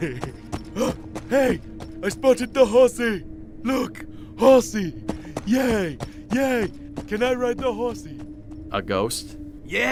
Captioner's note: gasps